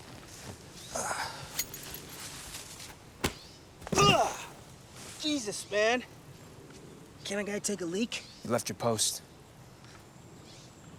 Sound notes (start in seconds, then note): 3.9 groans